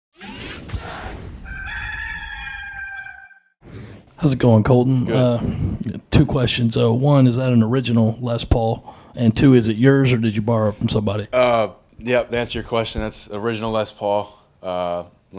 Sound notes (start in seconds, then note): 0.1 logo buzzes; 1.4 cock crows